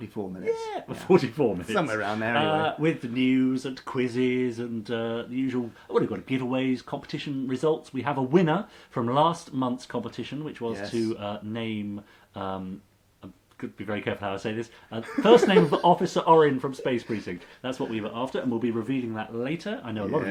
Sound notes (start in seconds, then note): 15.0 laughs